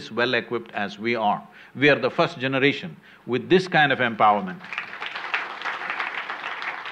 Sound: applause

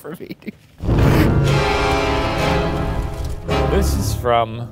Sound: smoke whooshing; intense music

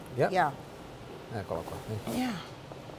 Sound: speaks italian

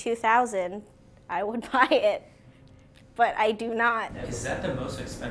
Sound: laughs

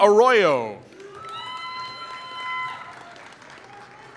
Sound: applause

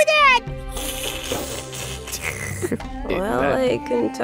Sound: slurp slurp slurp

